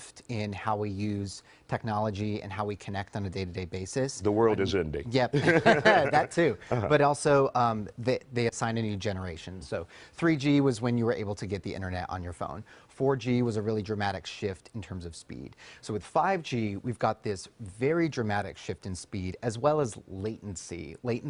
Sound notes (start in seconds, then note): 5.3 both laugh